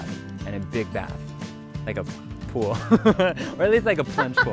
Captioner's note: laughs